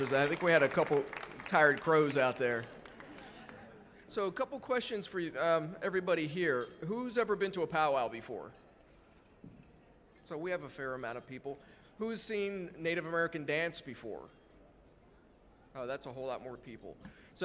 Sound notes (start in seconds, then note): 3.2 audience laughing